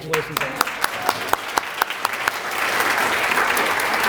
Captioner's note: applause